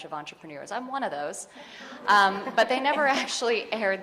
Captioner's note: audience laughing